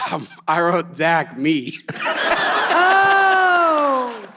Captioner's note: all laughs